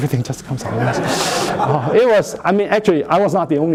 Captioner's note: laughter